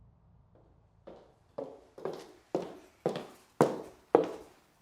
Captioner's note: footsteps tapping